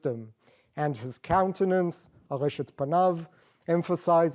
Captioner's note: non-english